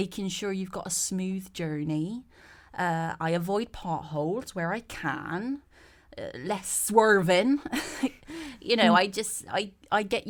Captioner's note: laughs